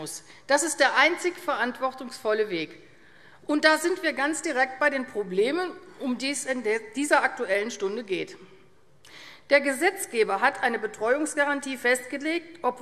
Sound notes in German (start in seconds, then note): none